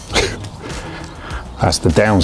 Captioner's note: chuckles